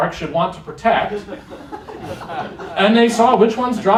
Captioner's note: laughter